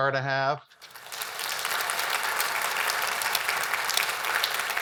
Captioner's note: audience applauds